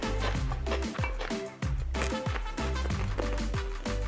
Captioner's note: crunching